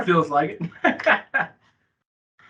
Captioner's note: laughing